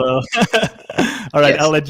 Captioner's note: laughing